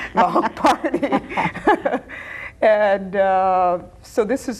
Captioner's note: both laughing